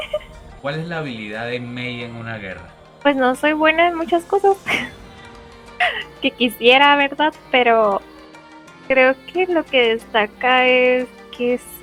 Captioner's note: laughs; laughs